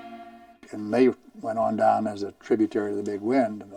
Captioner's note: voiceover